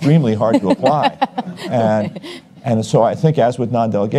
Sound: audience chuckles

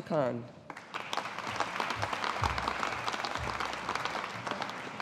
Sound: audience applauding

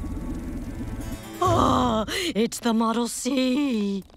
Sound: gasping

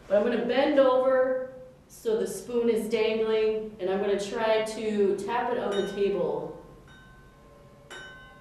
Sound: spoon chiming

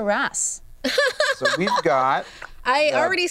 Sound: laughs

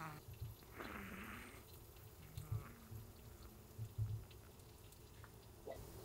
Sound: snoring ASMR

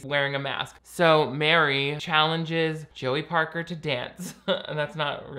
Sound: laughs

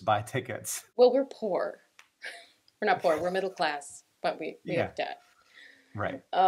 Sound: laughter

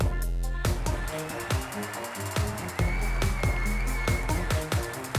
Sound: audience applauds

